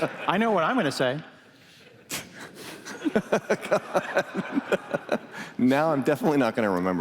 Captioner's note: laughter